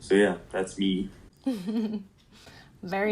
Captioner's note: noise of approval